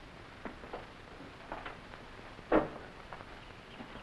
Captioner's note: footsteps echoing